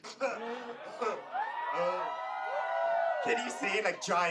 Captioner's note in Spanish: vítores